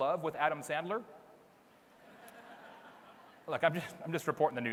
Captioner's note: audience laughs